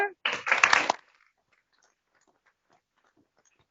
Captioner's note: applause